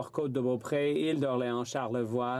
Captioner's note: speaking French